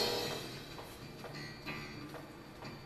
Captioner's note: cymbal crash; footsteps and music